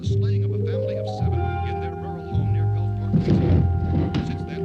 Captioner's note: murmuring